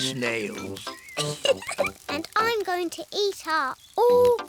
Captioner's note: laughs